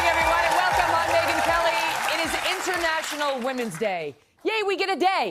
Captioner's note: cheers and applause